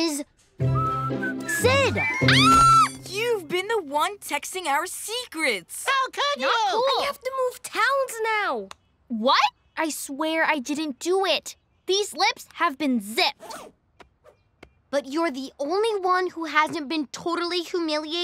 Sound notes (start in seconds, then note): 2.2 screams